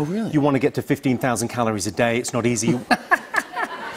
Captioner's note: laughter